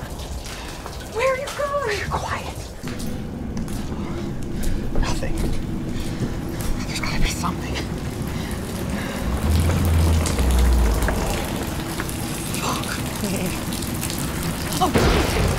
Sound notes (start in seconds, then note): 0.6 desperate whisper; 3.5 eerie wind howls; 8.2 rain pours into house; 9.9 structural Groan; 12.3 whisper